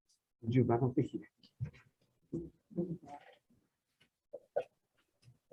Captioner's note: speaking in foreign language